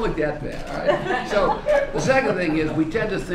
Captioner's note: laughter